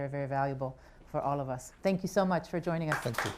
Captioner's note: applause